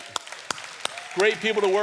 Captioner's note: audience applauds